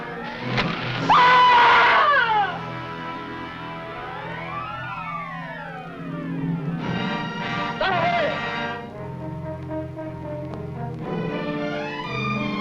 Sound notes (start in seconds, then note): 0.4 arrow whooshing; 1.1 Angelica screaming; 7.6 man shouting in foreign language